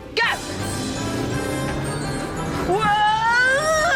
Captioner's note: engine revs; yells